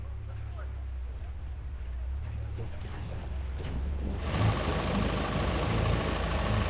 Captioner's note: engine revving